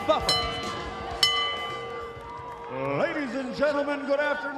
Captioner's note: bell ringing